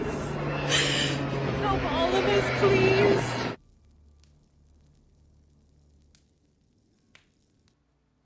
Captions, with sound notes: Help all of us, please. (fire crackling)